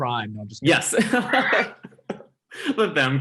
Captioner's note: laughing